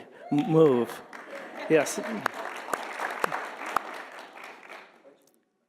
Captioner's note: audience applauding